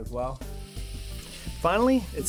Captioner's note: sizzling